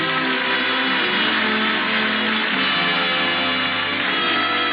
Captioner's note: audience applauds